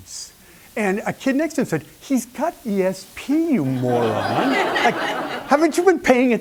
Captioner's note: laughter